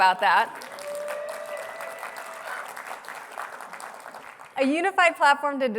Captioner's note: applause